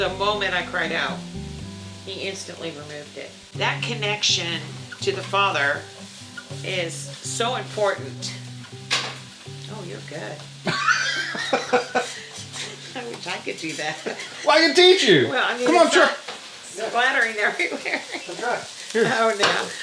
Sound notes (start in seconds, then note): 10.6 laughs; 17.6 laughter